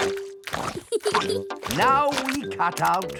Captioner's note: peppa giggles